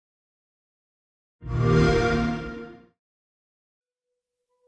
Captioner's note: xbox sound